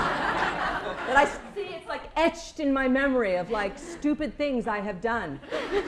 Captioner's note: laughter